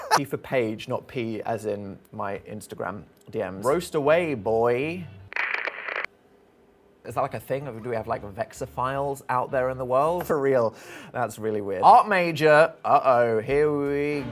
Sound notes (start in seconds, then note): 0.0 wheezing laughter; 5.3 static sound effect